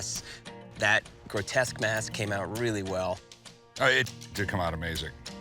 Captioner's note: none